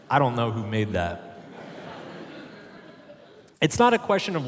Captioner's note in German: Publikum lacht